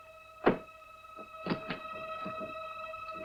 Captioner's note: suitcase latch unclicking